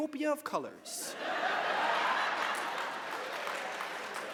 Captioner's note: laughter